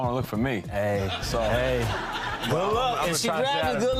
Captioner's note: audience laughing